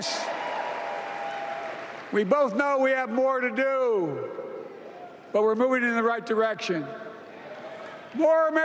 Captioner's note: applause